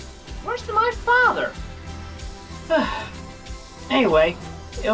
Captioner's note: sigh